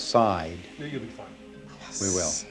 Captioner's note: whispering